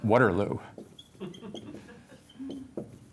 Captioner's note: laughter